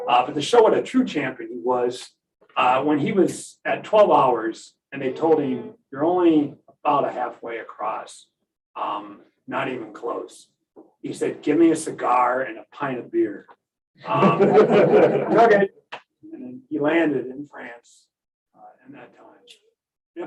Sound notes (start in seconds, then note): 14.0 laughter